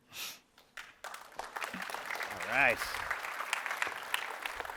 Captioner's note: applause